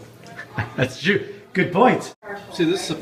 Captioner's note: laughter